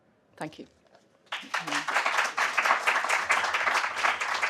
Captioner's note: applause